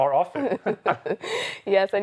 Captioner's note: both chuckle